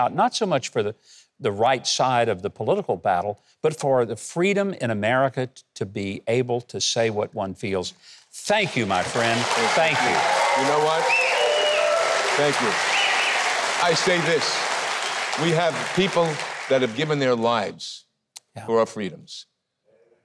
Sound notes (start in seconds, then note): 9.2 audience applauding